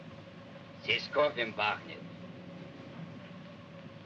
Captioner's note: speaking in Russian